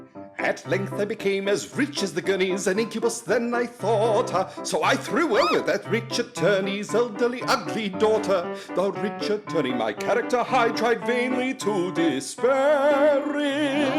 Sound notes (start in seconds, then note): 5.3 woman’s shriek